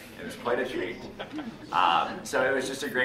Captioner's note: laughing